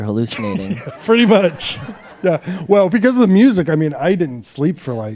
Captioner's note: laughs